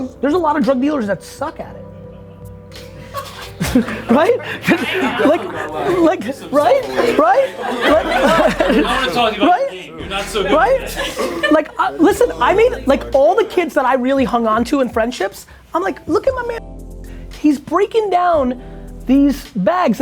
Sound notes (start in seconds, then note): 3.0 group laughter